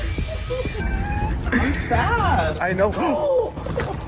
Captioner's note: cat Caterwauling; multiple People Gasp